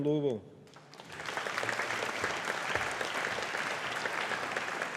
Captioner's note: audience applauding